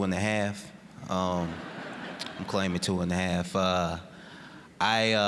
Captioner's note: audience laughing